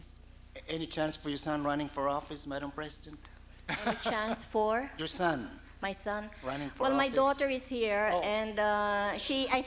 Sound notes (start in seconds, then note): 3.6 laughs